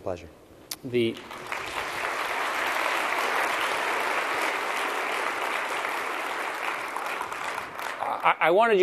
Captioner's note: applause